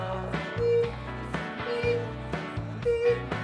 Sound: Zeus beeps

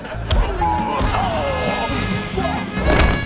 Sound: groaning

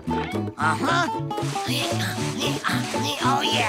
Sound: grunting

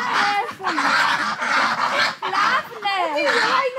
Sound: ducks quacking

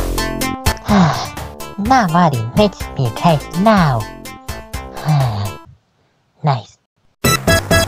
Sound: sigh

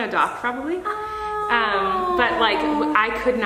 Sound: Trisha cooing

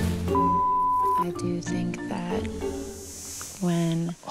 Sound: insect buzzing

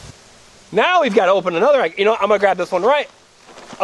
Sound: voiceover

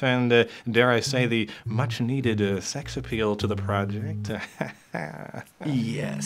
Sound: chuckling

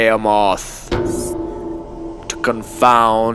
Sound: bell tolls

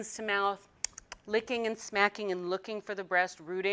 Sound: smacking lips

